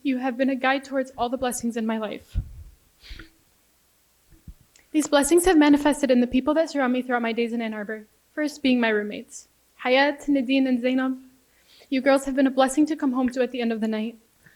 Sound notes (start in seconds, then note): 10.4 foreign language